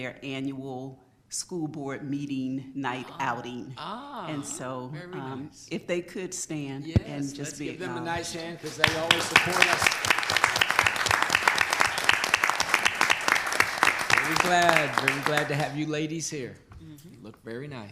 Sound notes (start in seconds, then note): 10.3 applause